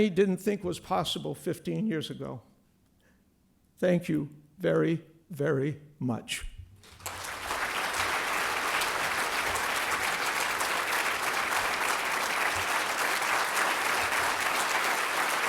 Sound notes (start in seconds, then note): 11.9 applause